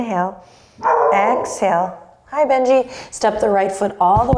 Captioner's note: Benji barking